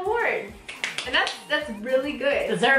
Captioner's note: claps